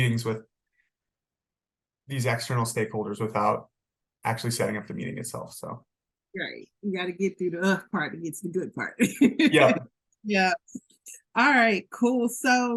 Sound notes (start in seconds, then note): 9.4 laughs